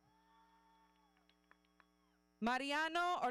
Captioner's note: audience cheering